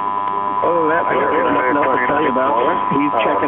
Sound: mixed transmissions

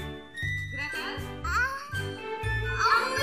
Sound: Gretel gasps

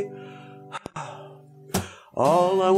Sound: sigh

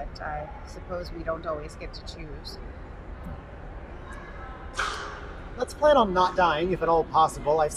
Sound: none

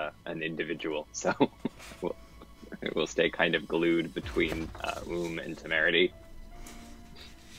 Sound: chuckles

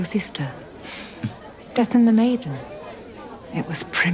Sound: chuckles

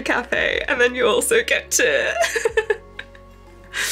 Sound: laughs

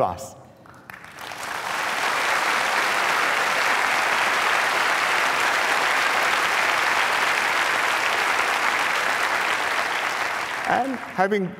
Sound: applause

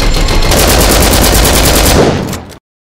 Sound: LMG fire

